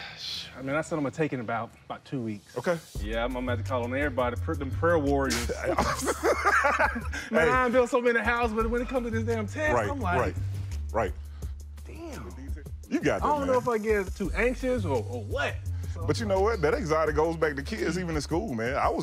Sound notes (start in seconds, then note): 5.4 laughter